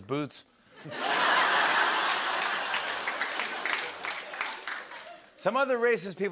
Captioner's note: laughter